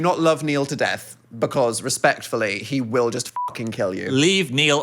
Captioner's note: beep